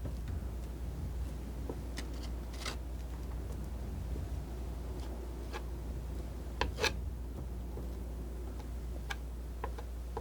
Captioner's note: scratching